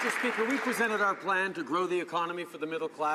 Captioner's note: some Applause